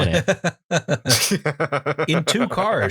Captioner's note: laughter